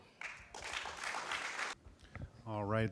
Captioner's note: applause